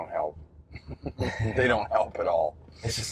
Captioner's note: both chuckle